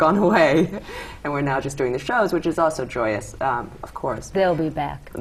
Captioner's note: laughter